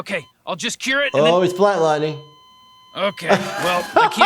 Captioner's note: beeping